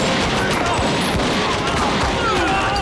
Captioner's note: all exclaim